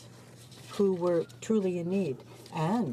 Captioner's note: speaking French